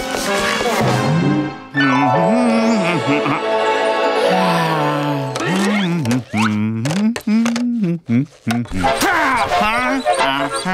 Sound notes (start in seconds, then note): 1.5 humming; 4.1 sighing; 4.2 humming